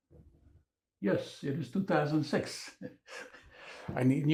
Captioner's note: laughing